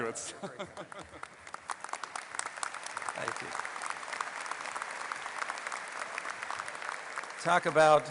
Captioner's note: laughing; applause